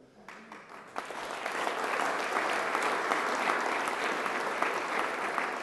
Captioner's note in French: Applaudissements